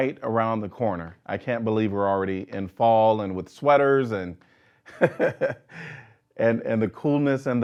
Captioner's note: laughing